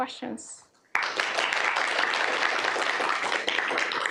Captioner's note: applause